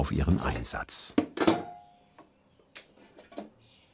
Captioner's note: metallic clatter